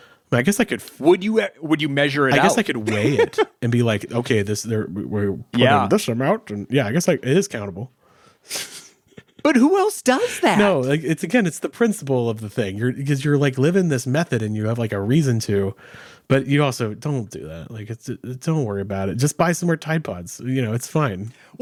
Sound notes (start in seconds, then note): 2.3 laughing; 10.1 laughs